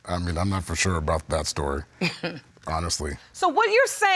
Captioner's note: chuckles